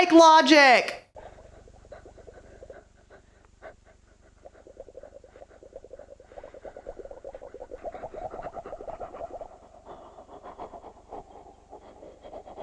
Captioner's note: awkward breathing noises